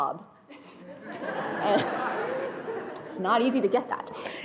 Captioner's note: attendees laughing